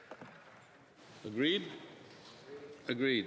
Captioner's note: speaking Alternate Language